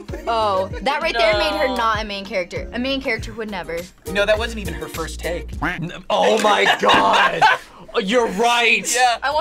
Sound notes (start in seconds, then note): 5.6 duck quacks